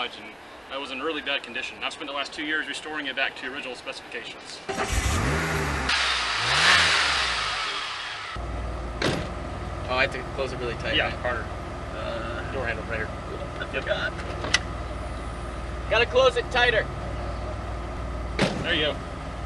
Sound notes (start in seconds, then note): 4.7 car starts, revs; 9.0 door shuts; 18.3 door slams